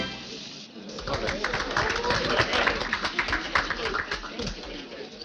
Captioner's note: audience clapping